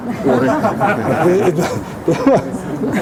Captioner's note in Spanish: risas